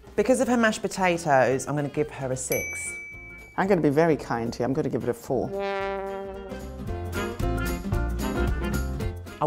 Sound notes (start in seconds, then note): 2.5 bell dings; 5.5 dramatic music; 6.9 lively upbeat music